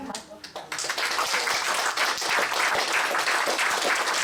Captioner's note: applause